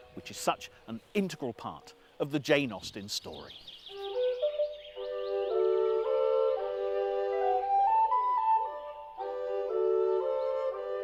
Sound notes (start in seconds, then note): 3.8 birds chirping; 4.2 bright music